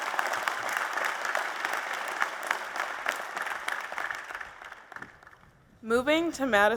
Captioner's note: applause